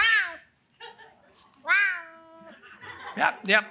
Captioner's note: cat meowing